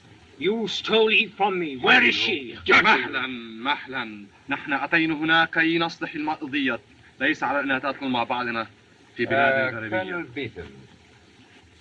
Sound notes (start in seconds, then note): 1.7 arguing